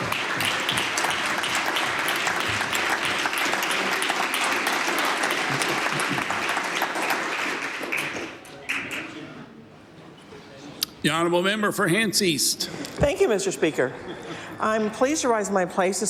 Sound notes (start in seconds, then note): 0.5 applause